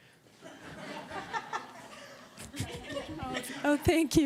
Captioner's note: laughter